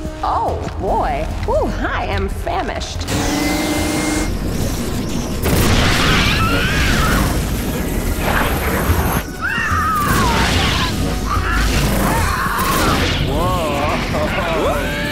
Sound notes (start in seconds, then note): 3.0 mouth whirring; 5.9 cloud creature shrieking; 14.9 cloud creature shrieking